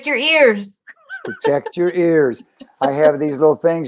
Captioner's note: laughter